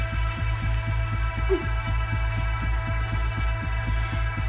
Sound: grunting

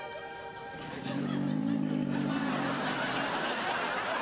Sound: slurpy growling sounds

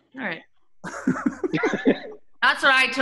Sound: laughing

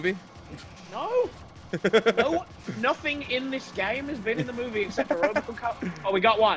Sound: laugh

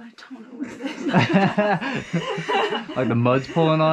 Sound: laughing

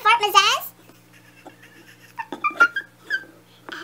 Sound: laughs

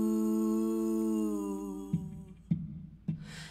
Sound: tap, tap, tap

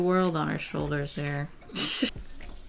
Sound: laughs

